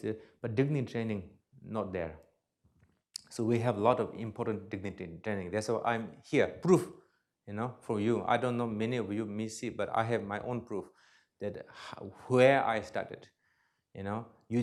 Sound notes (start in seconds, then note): none